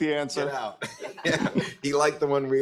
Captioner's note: panelists laugh